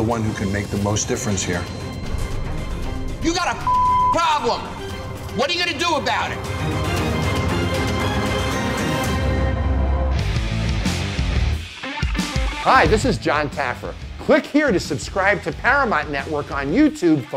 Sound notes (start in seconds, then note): 3.6 beeping; 6.7 dramatic music playing